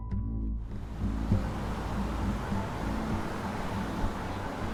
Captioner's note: traffic humming